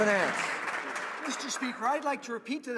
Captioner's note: some Applause